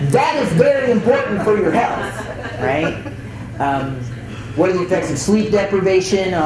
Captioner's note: chuckles